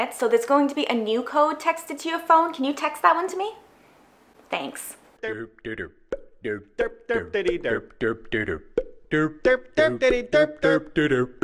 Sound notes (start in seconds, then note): 5.2 vocalization